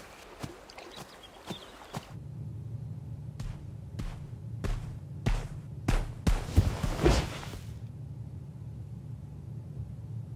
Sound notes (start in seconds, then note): 4.5 footsteps approaching